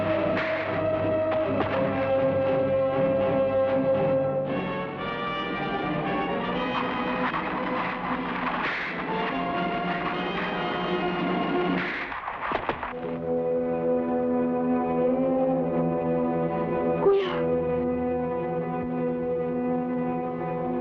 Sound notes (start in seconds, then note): 0.3 body thuds; 0.3 fist pounds; 8.5 fist pounds; 12.9 somber music; 17.0 person speaking in Tagalog